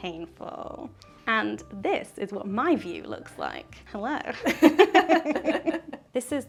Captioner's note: laughs